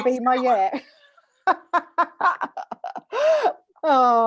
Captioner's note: laughter